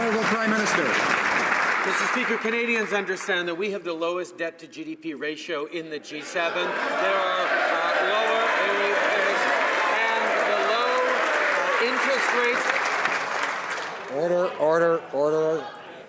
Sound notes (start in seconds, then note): 6.6 some Applause